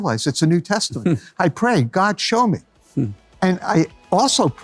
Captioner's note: laughs